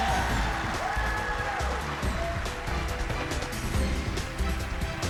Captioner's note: cheers and applause